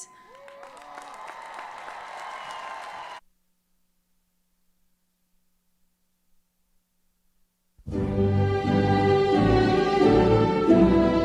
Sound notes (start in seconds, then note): 0.0 students cheering; 7.9 upbeat music